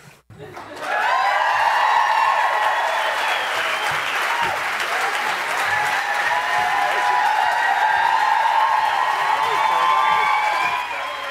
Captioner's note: applause